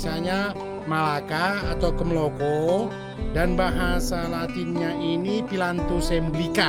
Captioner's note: Javanese